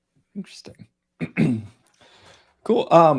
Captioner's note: clearing throat